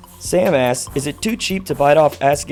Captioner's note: voiceover